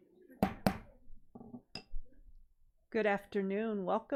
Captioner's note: gavel bangs